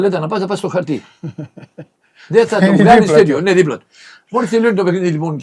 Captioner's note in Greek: γέλια